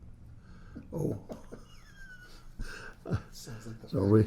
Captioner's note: laughs